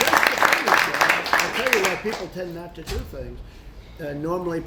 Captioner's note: applause